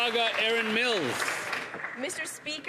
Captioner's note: some Applause